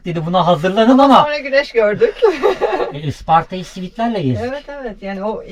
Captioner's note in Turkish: kahkaha